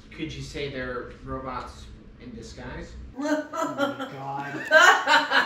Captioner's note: assorted laughter and groaning